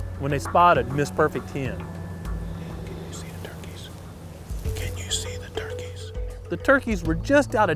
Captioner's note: whispering